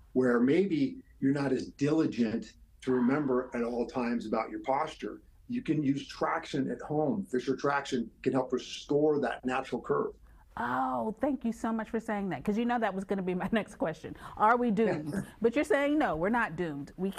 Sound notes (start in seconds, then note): 14.8 laughs